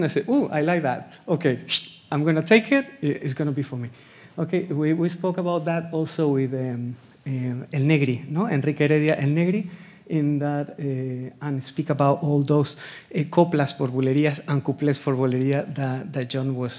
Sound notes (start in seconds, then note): 1.6 whistles